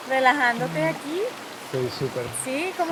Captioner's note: speaks in Spanish; in Spanish